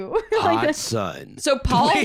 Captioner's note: dramatically